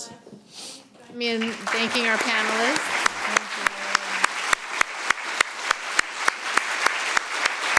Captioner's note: audience applauding